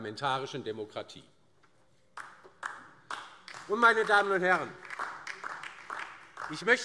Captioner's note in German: Beifall DIE LINKE